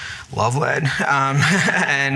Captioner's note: laughter